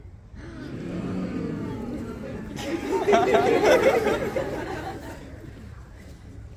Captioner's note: crowd gasps, laughs